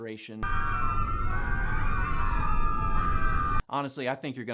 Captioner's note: crowd screaming